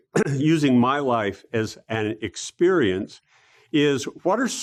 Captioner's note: cough